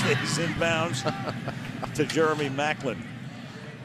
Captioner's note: laughs